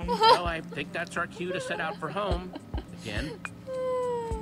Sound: Sabrina laughs

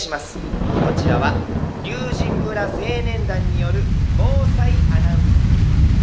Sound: voice fades out

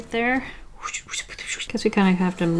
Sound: swooshing noises

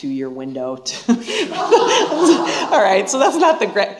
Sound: laughter

